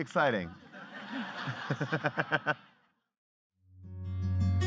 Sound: laughing; light guitar music

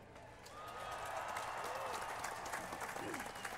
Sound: cheers and applause

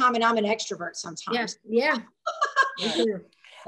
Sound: laughing

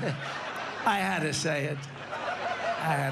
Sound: laughter

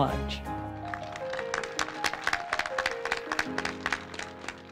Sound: attendees applauding; soft piano music

